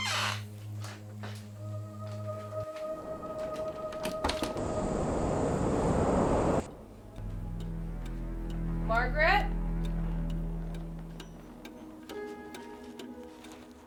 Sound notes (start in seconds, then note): 4.2 door closes; 7.1 clock ticks rhythmically; 7.3 eerie music continues